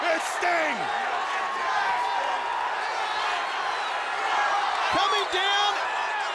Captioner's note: audience cheering